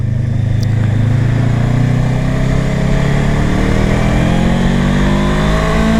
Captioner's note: revving up the bike